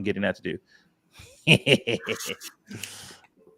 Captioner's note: laughs